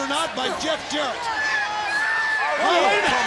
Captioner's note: audience shouting